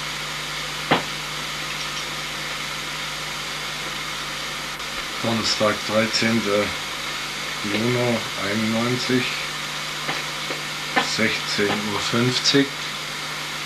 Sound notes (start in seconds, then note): 0.9 knock